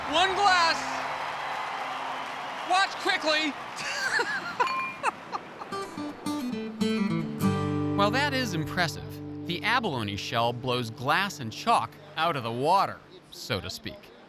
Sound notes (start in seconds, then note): 3.8 laughing